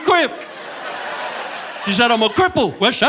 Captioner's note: audience laughing